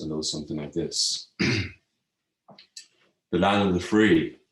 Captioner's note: clears throat